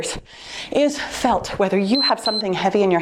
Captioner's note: timer beeps